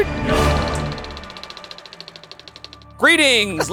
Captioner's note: film reel clicking